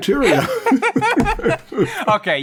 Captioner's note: laughter